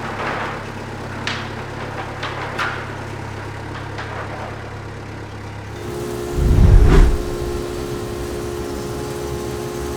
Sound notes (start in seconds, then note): 6.3 whirring